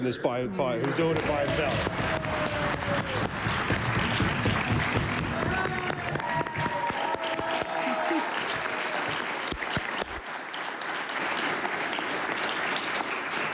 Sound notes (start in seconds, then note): 4.9 applause